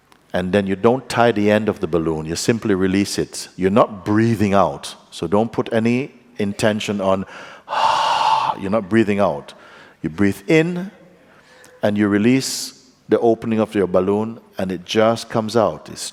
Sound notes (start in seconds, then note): 7.2 exhales